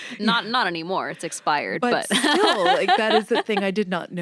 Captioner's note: laughs